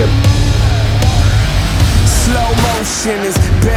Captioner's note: snow mobile engine revving